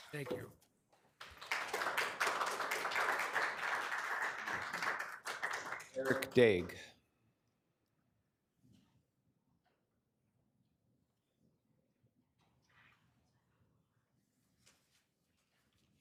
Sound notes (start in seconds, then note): 1.0 attendees clapping